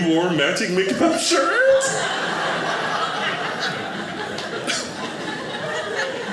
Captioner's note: audience laughing